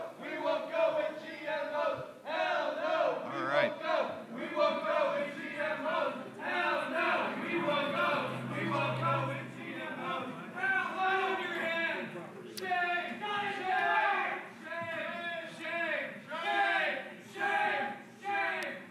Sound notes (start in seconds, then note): 0.0 protestors chanting; 14.1 protestors chanting